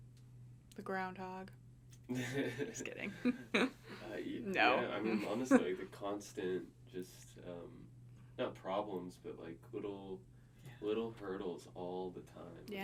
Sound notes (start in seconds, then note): 2.1 laughing